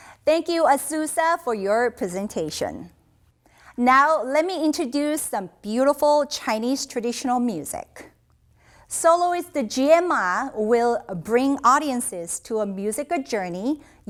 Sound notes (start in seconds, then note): none